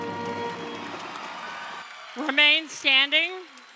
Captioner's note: crowd cheering